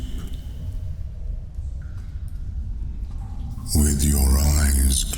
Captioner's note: cave noises